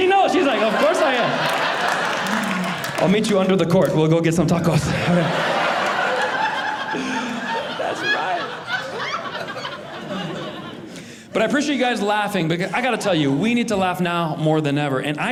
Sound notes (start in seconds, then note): 4.8 audience laughing